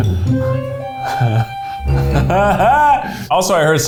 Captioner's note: quirky music; laughs